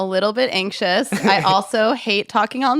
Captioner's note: laughs